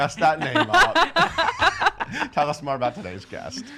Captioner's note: laughing